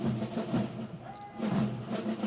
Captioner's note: Officier crie un ordre